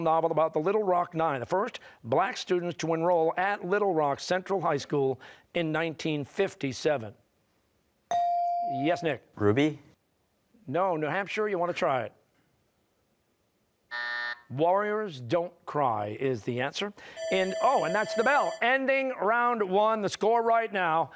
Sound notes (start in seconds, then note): 13.9 buzzer; 17.1 bell ringing